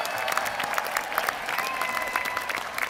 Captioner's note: applause